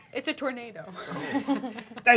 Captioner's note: laughing